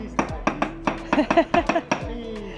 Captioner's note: laughing